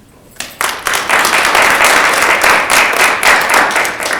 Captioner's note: audience applauds